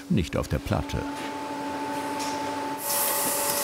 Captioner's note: machine roaring